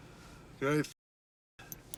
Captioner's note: none